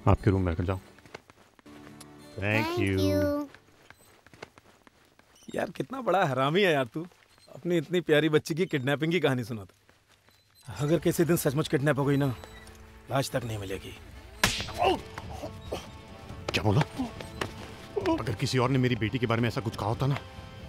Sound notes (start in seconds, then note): 2.1 Kisses; 14.4 Slaps; 14.5 Screams